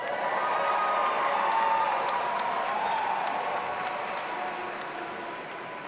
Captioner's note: audience applauding and cheering